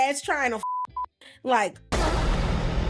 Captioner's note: beeping